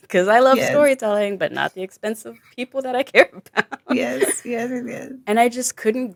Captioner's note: chuckles